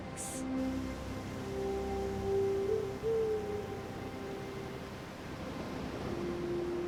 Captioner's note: owl hoots in the distance; trees rustling; waves lightly crashing